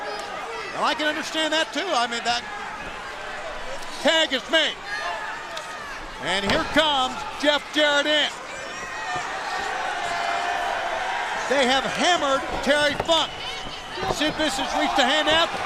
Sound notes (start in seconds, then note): 8.5 crowd chatter